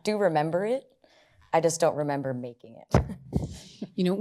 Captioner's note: chuckles